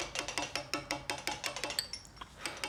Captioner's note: tapping chisels